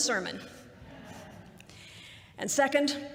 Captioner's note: laughter